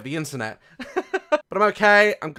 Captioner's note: laughes